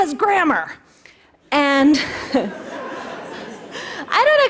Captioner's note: laughter